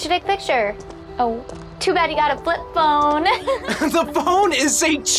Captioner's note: laughing